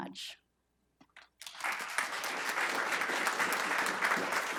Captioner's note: applause